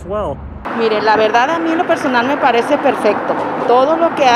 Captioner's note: foreign language